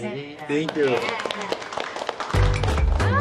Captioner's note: applause